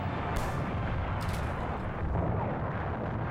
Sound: explosions

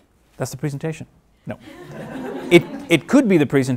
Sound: laughing

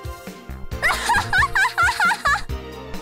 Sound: laugh

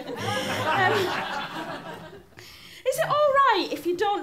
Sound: laughter

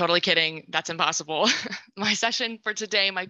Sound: laughs

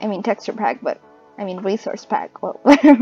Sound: laughs

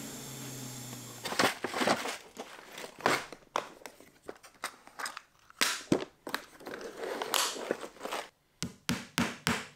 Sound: dust collector spins down, wood part slams as they stack up; dragging sound of pulling hardware divider from storage

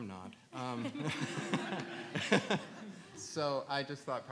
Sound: audience laughs

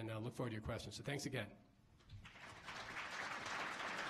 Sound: applause

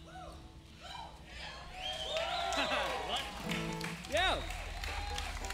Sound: crowd cheering

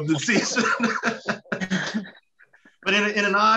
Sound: laughing

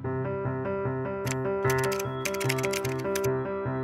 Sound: typing

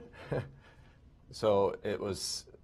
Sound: laughter

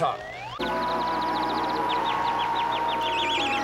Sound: gong reverberating, birds chirping

